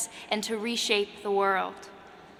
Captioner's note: none